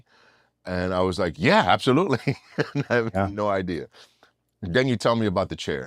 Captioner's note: laugh